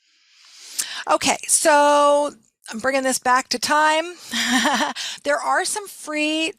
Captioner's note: laughing